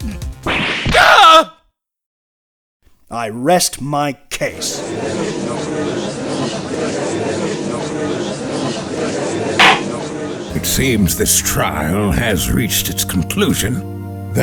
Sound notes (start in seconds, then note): 4.7 gallery chattering; 9.6 gavel slams!